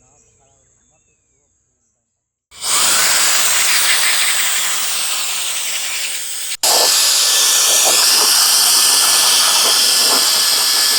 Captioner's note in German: schnauben